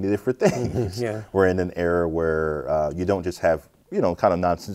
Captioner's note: chuckles